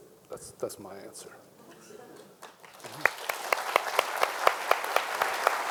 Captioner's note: people applauding